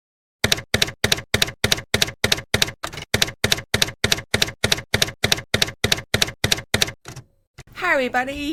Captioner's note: typewriter key clacking